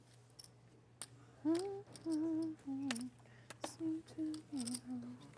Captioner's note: hums